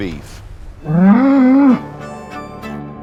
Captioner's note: cows MOOING